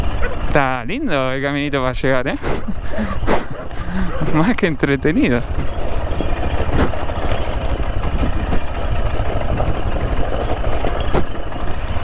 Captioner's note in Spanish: risas